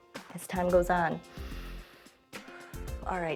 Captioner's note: inhales and exhales